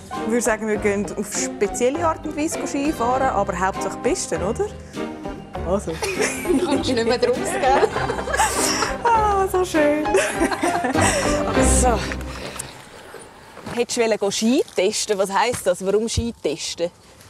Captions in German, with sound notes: Ich würde sagen, wir gehen auf spezielle Art und Weise Skifahren. Hauptsache auf der Piste, oder? Du kommst nicht draus, gel? - Nein. *lacht verschämt* So schön! Warum wolltest du die Ski testen?